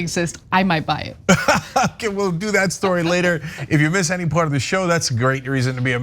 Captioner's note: laugh